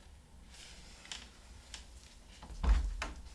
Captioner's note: door shuts